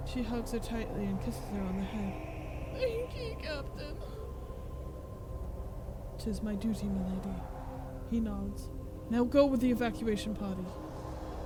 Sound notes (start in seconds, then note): 2.7 sobbing